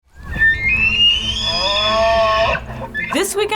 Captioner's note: elk screeching